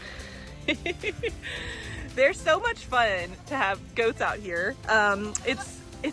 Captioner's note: laugh